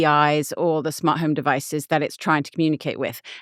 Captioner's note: none